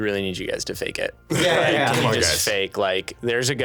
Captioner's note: laughing